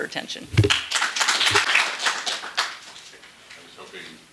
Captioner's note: applause